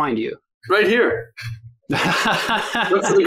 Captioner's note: laughs